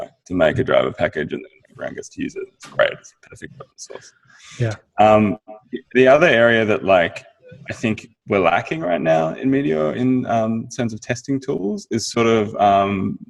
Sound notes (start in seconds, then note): 2.6 signal breaks up